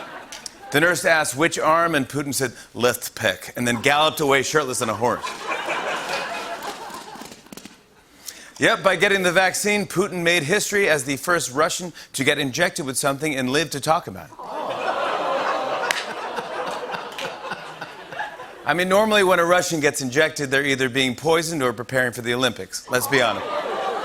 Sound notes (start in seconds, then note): 5.1 laughter; 14.5 audience groans